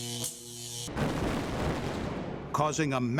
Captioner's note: sound of explosion